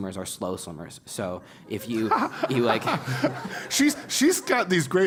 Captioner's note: laugh